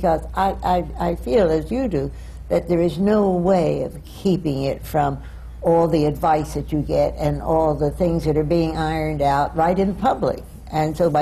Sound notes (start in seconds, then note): none